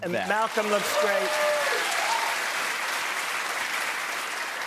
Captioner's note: cheers and applause